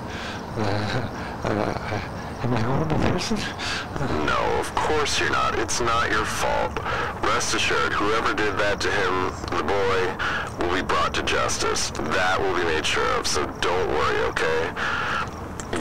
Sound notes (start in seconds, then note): 3.2 hyperventilating